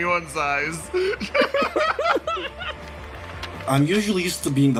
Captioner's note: laughs